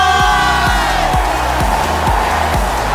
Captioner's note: crowd cheering